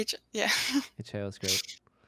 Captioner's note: chuckles